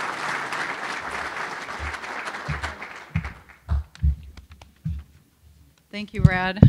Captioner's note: applause